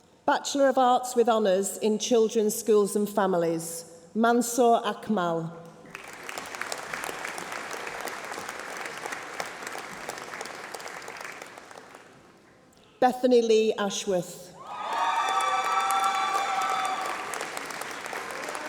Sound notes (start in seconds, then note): 5.8 applause